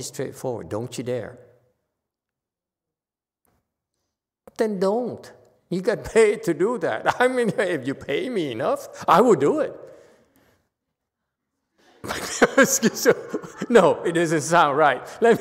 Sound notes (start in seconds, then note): 10.2 laughs